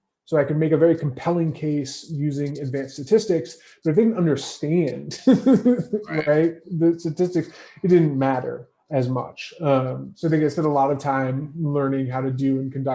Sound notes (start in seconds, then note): 3.8 laughs